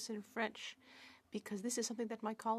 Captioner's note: speaking French